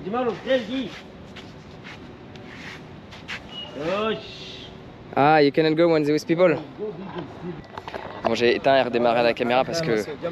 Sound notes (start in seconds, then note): 2.3 footsteps; 3.8 speaking in foreign language